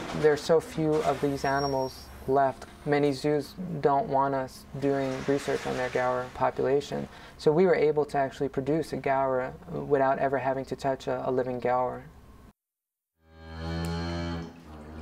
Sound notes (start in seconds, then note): 13.4 cow moos